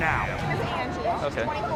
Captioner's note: others shouting